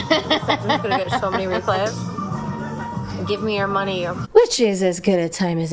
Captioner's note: laughs; hoots